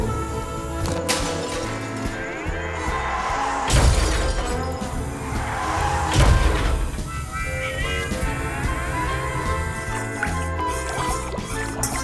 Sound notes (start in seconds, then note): 1.1 glass shattering; 3.2 tires screeching; 6.1 crashing